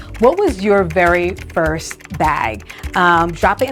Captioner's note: keyboard typing